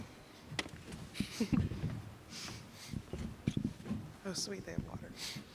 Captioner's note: chuckles